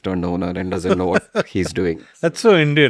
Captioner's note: laughs